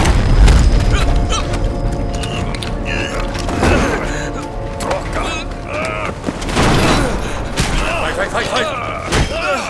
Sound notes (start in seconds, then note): 0.9 screams, grunts